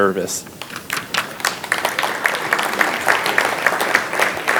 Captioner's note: audience applauds